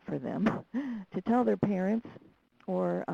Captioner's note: laughs